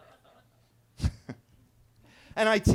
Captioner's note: attendees laughing; guy chuckles